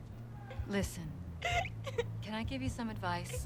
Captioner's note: sobbing